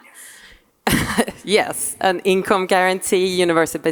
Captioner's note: laughing